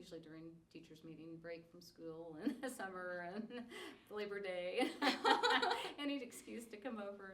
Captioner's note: laughs